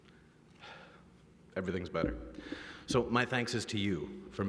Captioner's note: exhales